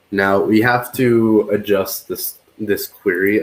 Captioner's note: none